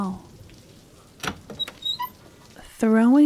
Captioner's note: door opening, rain sounds get louder